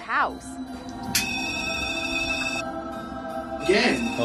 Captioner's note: alarm buzzing